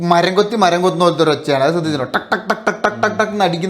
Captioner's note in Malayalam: പൊട്ടിച്ചിരി